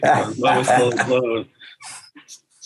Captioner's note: laughs